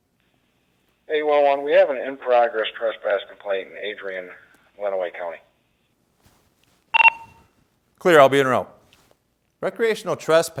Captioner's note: beep